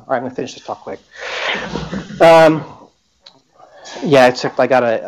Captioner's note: laughter